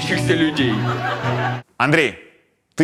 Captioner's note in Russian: Зал смеётся